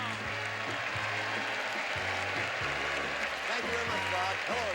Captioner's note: audience cheering